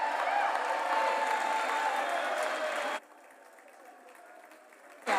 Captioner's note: cheers